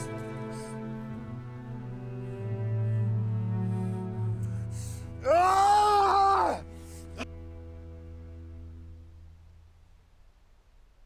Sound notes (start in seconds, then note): 4.9 cry of determination